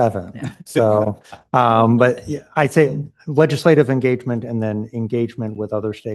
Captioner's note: laughter